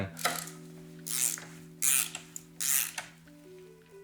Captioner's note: spanner whirring